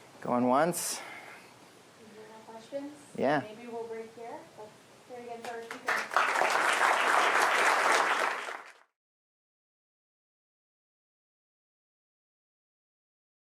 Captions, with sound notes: Going once? If you don't have questions, maybe we'll break here. We'll return again for a second. [APPLAUSE]